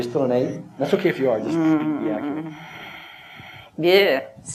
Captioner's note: moans